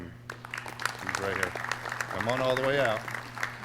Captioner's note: clapping